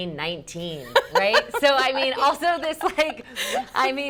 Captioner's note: laughs